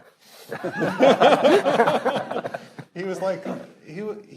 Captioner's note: panelist laughing